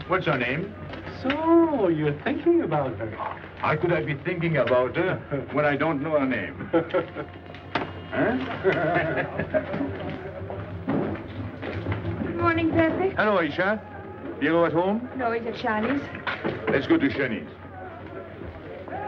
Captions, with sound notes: What's her name? - So, you're thinking about her. - How could I be thinking about her when I don't know her name? Eh? (laughing) - Good morning, Pepe. - Hello, Aicha. Pierrot at home? - No, he's at Johnny's. - Let's go to Johnny's.